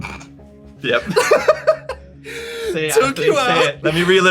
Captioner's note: laughs